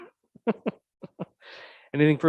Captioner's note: laughing